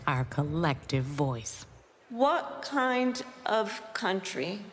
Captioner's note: none